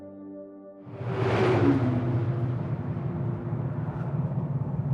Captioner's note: air whooshing